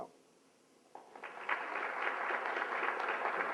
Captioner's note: applause